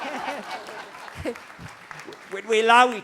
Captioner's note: crowd Laughing